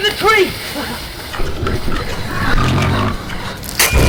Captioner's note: creature growls nearby